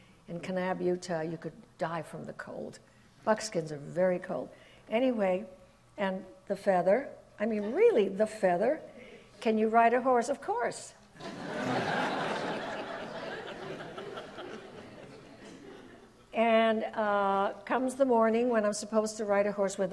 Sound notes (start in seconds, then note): 11.2 audience laughs